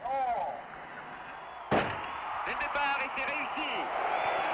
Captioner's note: starter's pistol fires